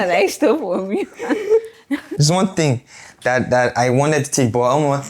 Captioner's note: laughs